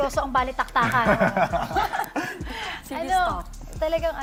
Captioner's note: all laugh